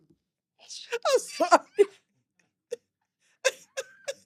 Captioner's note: laughing